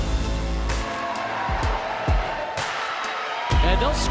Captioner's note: crowd cheering